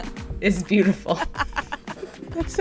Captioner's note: laughter